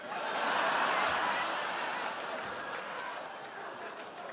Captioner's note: audience laughs